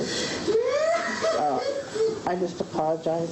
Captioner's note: sobbing